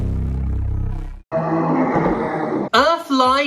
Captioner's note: monster noises